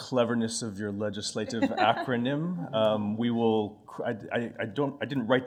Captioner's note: laughter